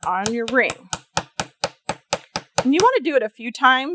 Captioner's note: light hammering